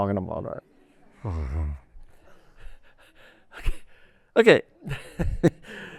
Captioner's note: laughter